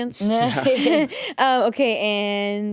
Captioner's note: laugh